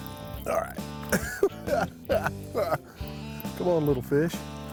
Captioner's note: laughs